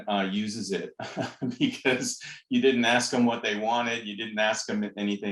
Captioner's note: laughter